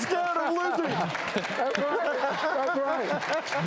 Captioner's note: laughing